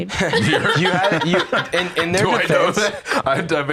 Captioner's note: laughs